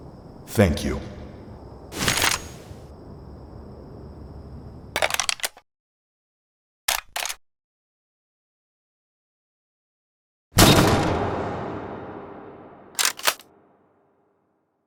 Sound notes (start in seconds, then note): none